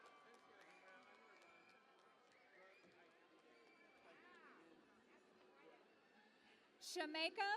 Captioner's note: cheering and Applause